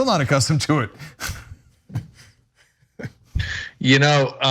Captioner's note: laugh